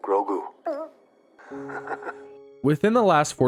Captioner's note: Din chuckles